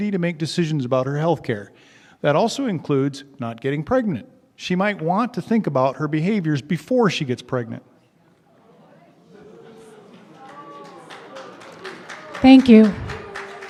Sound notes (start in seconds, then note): 9.3 boos and applause from audience